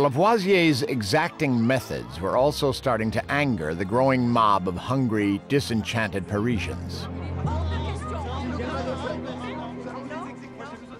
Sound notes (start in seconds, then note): 7.3 <i> people yelling</i>